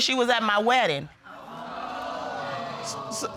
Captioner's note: audience exclaims